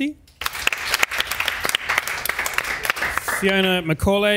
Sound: audience applauds

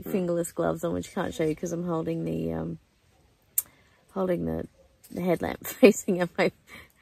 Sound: laughs

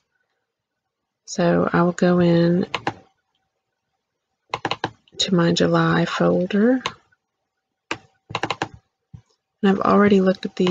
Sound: click; click

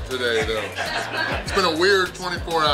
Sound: crowd laughs

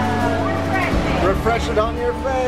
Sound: water overpowers voice

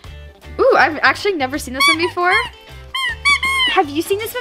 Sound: toy squeaks

